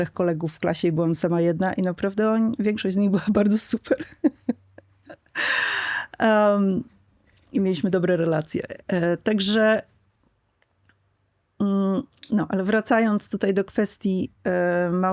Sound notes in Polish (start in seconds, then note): 3.9 śmiech; 5.2 wciągnięcie powietrza